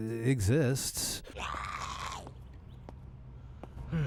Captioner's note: zombie moans